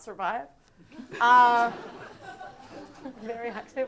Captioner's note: audience laughing